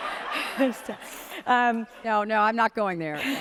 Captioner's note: audience laughs